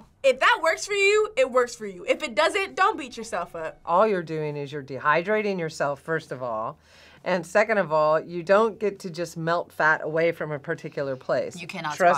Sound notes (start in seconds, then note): none